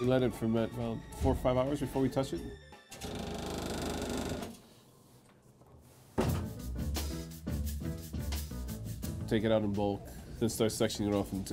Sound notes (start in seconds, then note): 3.0 machine rattles; 6.1 slow jazzy music